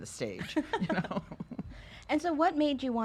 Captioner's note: laughs